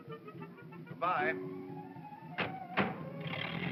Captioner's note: car doors close; car rumbles away